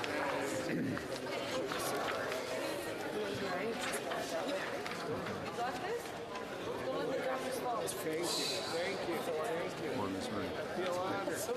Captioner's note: some Applause